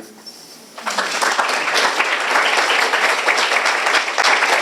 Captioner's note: applause